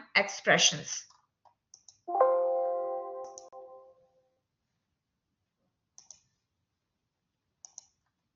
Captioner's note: silence